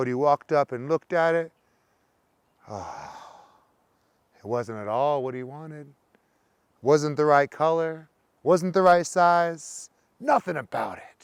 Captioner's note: sighs